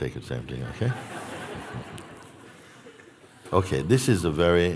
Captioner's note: laughter